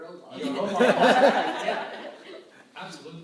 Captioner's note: laughter